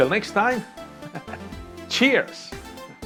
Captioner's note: laughs